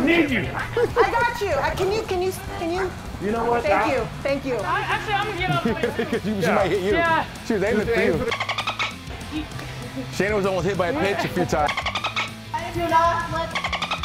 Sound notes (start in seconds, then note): 5.8 laugh